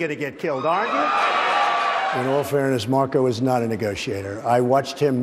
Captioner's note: applause